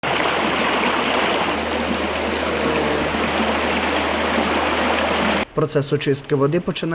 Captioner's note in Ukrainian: шум води